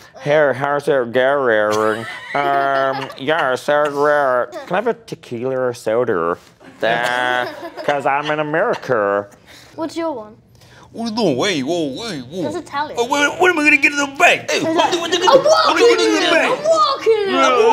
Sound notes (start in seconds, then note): 1.7 laughs; 14.7 shouts in gibberish; 15.0 speaks in gibberish